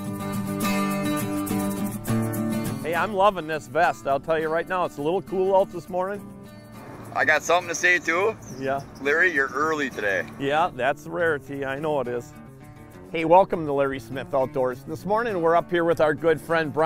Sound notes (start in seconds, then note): 0.1 country music; 2.8 people chatting; 6.5 voiceover; 9.7 voiceover